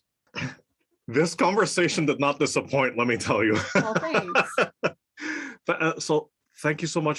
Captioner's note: laugh